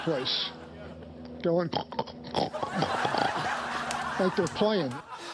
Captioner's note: snorting; studio audience laughing